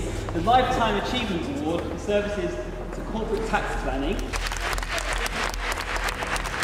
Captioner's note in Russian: Аплодисменты